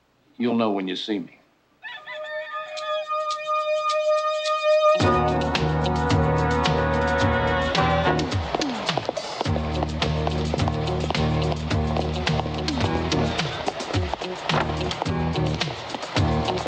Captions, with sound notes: - You'll know when you see me. (rooster crows) (suspenseful music)